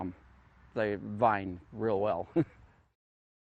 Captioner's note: chuckles